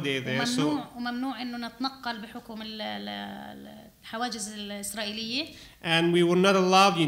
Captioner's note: speaking arabic